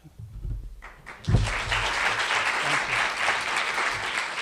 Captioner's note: applause